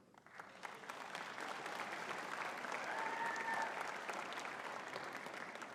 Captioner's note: audience cheering and clapping